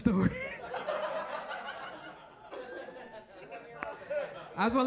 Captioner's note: audience laughs